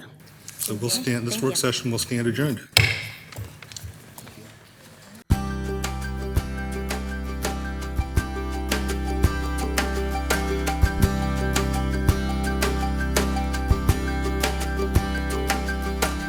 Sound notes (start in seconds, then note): 2.8 gavel thumps; 5.6 upbeat ambient music